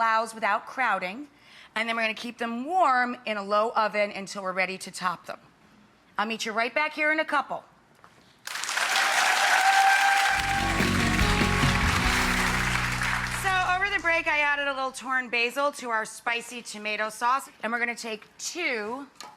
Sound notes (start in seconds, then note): 8.4 audience clapping